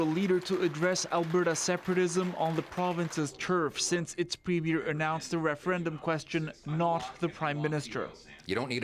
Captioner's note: applause